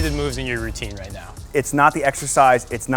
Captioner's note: clang sound